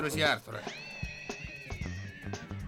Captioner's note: gasps